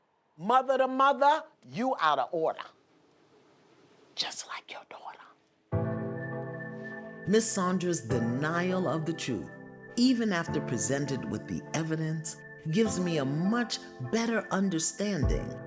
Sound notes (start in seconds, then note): 3.9 whispers; 7.0 normal voice